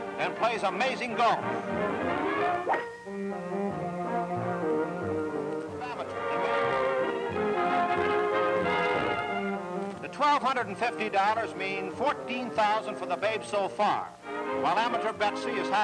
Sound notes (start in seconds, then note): 2.6 whacking; 5.5 light music